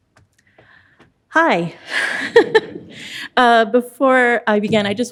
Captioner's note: laughs